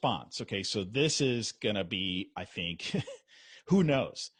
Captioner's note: giggles